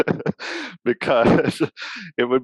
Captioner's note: laughs